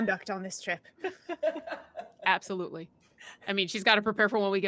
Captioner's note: laughing